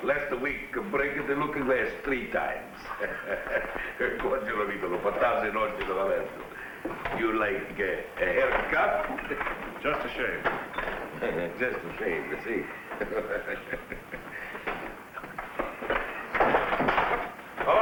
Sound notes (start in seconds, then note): 2.8 barber chuckles; 4.0 speaking in foreign language; 16.3 chair rattles